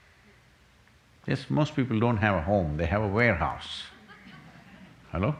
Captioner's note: few laughs